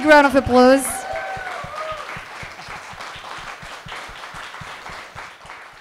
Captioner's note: audience applauding